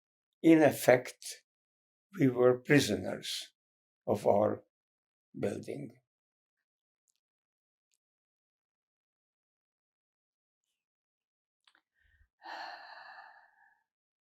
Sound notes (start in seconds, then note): 6.0 pauses 6 seconds; 12.5 sighing